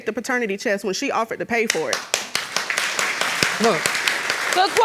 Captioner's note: audience applauds